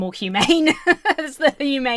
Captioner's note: laughs